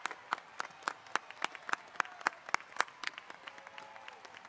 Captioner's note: audience cheers